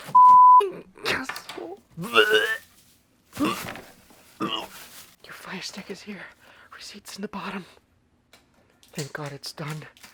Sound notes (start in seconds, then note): 2.0 vomiting